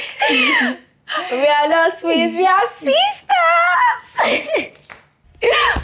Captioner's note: laughs